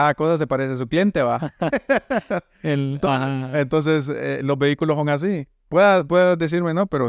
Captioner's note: laughs